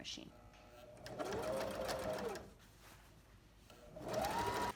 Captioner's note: sewing machine hums